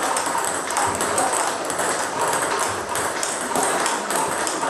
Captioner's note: ball ping pong hitting continues